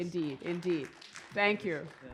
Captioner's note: applause